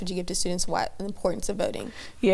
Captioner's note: stammers